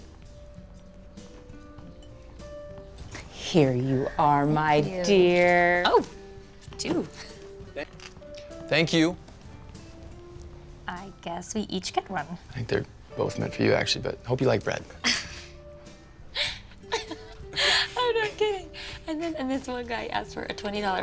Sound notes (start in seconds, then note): 16.4 laughs